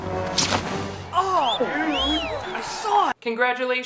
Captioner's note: people exclaiming